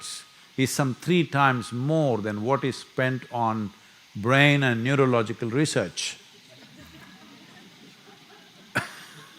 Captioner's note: laughter